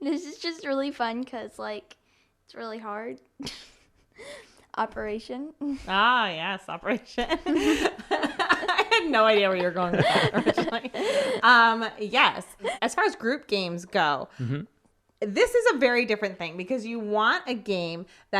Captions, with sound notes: this is just really fun, 'cause it's really hard, Operation. - Ah yes, Operation. (laughs) I haD no idea where you're going. Yes, as far as group games go, this is a very different thing because you want a game